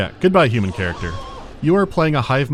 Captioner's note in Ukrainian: крик Марва з «Один дома 2»